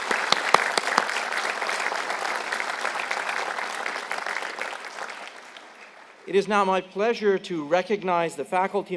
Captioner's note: applause